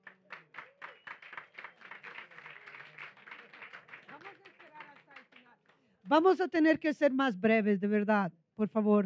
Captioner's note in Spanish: Aplausos